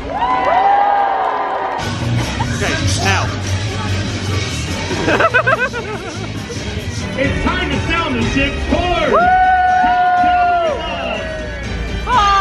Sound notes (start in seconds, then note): 0.0 guests cheer; 4.7 laughs; 9.0 guests cheer